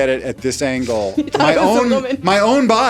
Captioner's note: laughs